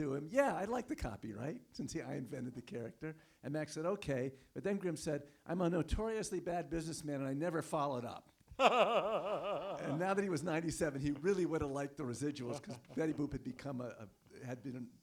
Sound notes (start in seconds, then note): 8.5 laughs